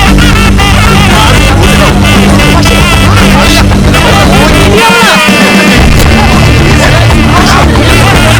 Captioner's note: Commotion among Families